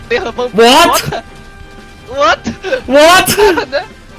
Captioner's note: they are speaking English